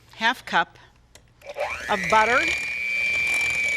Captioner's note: mixer buzzing